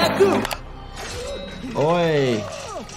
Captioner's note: character gasping, screaming